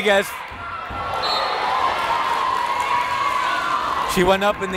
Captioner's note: whistle blowing